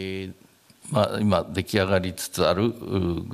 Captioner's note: speaking japanese